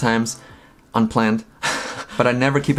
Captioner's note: laughs